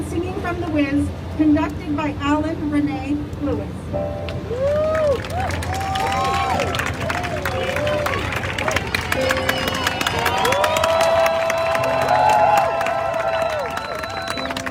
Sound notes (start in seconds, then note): 3.8 slow melodic music; 4.4 crowd cheering